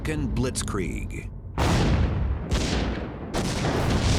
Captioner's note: sounds of battle